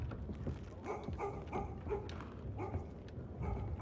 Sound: distant dog barking

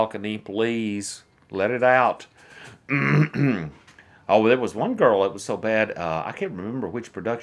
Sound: clears throat

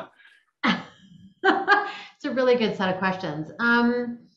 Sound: laughing

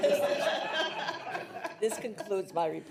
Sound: trustees laugh

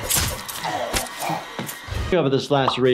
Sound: people grunting

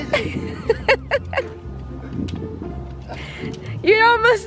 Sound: she laughs

